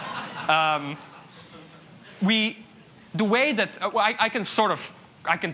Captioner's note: laughter